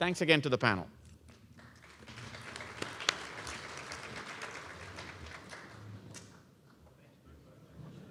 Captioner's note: applause